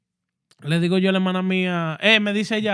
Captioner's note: speaking Spanish